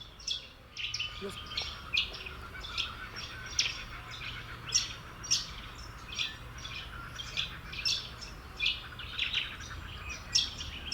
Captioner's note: ambient sounds, chirps and ocean